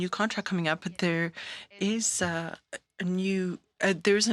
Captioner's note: speaking French